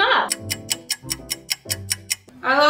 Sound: clock ticks

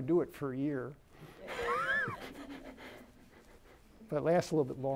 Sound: laughter

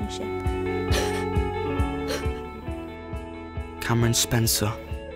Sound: Jaz crying

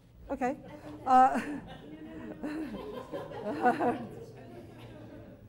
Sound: chuckles, audience giggles

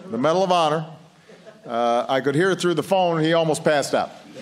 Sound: laughter

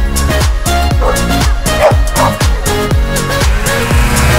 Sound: dogs barking; snowmobile buzzing

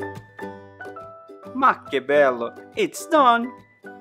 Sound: 🇮🇹 speaking Italian

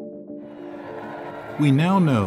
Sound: mysterious music; crowd cheering

